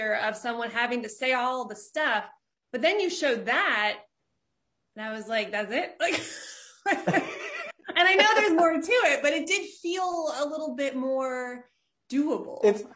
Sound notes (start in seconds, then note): 6.8 laughing loudly